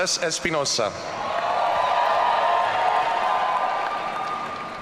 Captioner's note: audience cheering